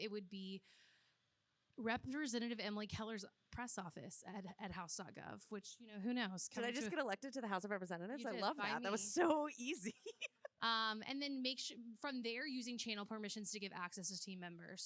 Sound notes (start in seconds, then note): 9.8 laughs